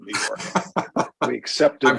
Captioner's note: laughter